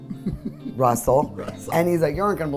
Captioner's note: laughs